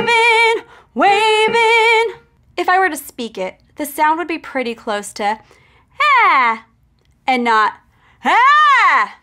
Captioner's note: aaaaaa; aaaaaaa